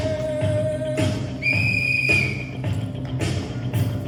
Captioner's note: whistle blows